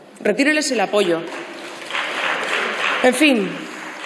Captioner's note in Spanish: Aplausos